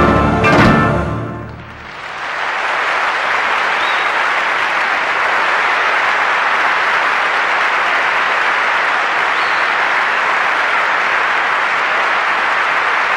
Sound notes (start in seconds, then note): 1.5 applause